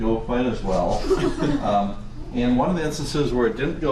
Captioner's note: students laugh